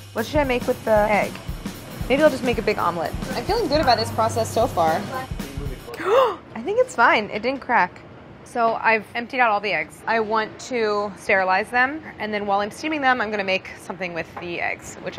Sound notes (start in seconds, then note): 5.9 gasps